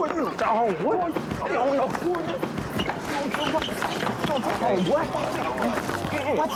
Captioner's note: scuffling